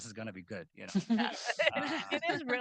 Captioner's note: group chuckling